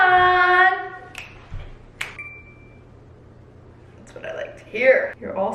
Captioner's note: finger snapping